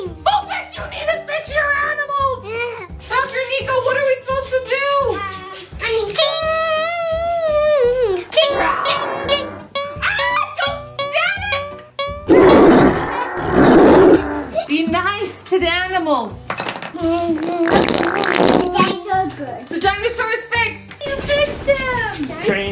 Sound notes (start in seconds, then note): 10.0 animal growling noises; 12.3 animal growling noises; 17.4 squishing sound